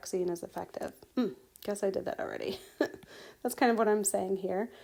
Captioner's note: laughing